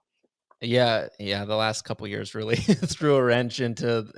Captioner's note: laughs